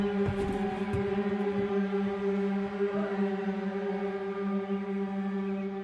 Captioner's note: footsteps and yelling offscreen